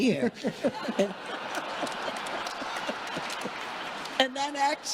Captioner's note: congregation laughing